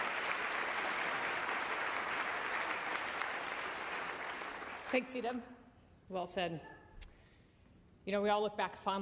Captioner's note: applause